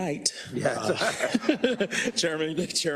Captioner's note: laugh